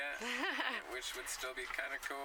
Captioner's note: laughs